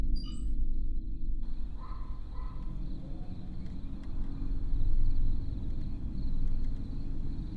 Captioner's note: crickets chirping; distant dog barking